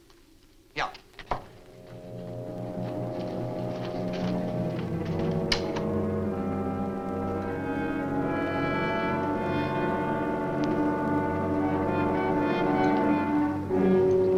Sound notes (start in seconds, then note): 1.5 suspenseful orchestral music; 3.9 door opens